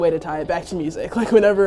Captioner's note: laughs